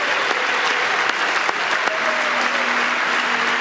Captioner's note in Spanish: aplausos